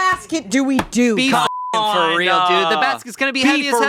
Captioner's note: beeping